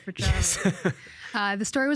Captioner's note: chuckling